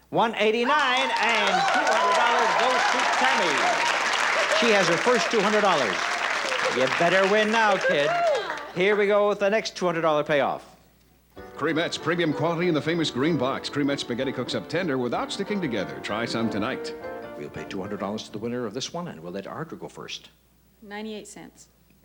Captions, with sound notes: $1.89 and $200 goes to Tammy. -(applause) -She has the first $200. You'd better win now, kid. Here we go with the next $200 payoff. -Creamette's premium quality in the famous green box. Creamette's spaghetti cooks up tender, without sticking together. Try some tonight. -We'll pay $200 to the winner of this one, and we'll let Ardra go first. -98 cents.